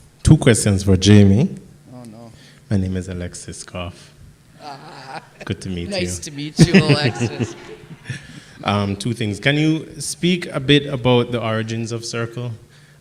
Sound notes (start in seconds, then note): 7.2 laughs; 7.4 audience laughing